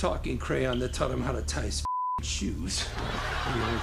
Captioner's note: laughter